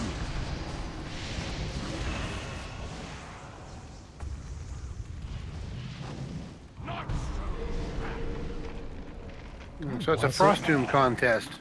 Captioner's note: whirring